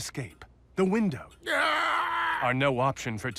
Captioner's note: groans as Two-Face